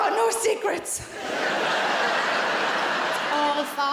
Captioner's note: audience laughing